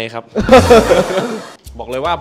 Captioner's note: laughs